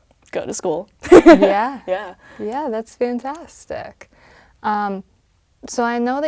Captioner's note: laugh